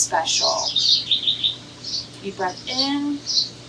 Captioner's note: bird chirps